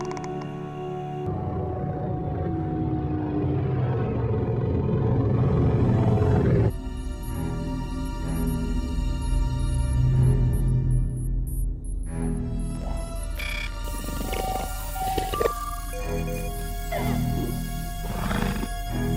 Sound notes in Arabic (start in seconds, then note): 4.2 موسيقى هادئة ومؤثرة; 8.7 هدير الغرفة وأصواتها; 8.7 هدير فضائي خافت